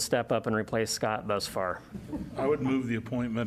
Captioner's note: laughter